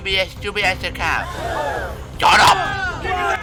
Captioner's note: gasped!